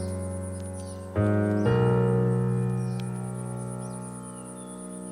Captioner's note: serene piano music; birds chirping